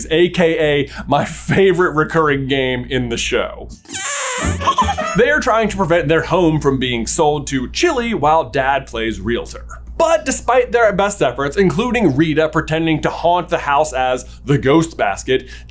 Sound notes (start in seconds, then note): 3.7 balloon squeaking air; 3.8 giggle